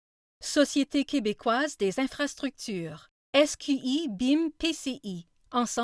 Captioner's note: speaking in foreign language